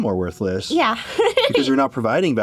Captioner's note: giggles